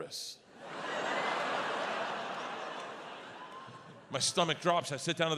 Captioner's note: audience laughs